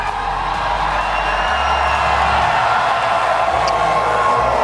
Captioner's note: audience cheering